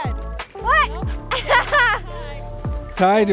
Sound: laughs

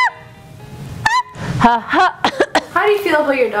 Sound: cough cough

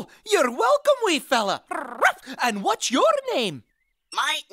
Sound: bark

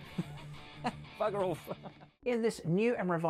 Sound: laughs

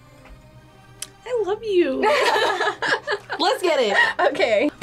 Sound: both laugh

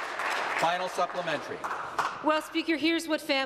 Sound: applause

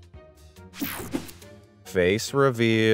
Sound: transition zapping

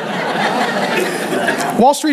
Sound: congregation laughing

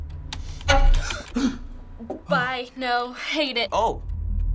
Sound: gasps; Henry gasps

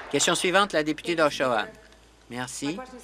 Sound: applause

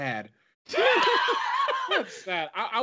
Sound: laughs

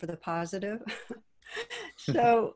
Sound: chuckles

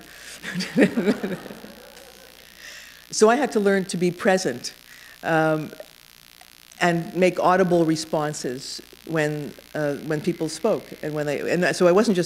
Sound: chuckle

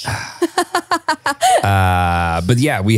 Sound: sighs; laughs

